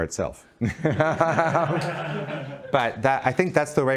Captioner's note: laughing